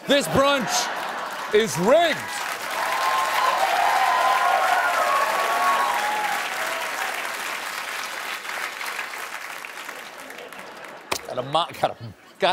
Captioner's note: cheers and applause